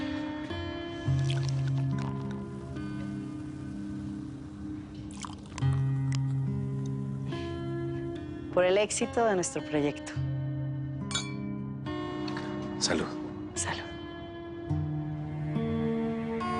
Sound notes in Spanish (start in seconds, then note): 1.1 Sonido al verter; 11.0 Choque de copas